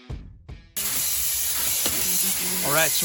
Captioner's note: sprayer hissing